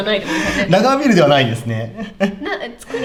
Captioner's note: laughs